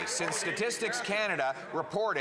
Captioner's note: some Applause